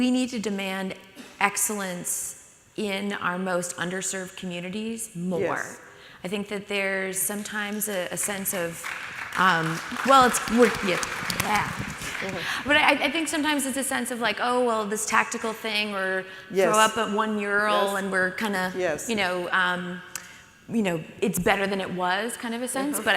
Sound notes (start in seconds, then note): 8.4 audience begins to applaud